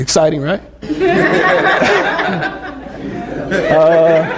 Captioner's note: laughter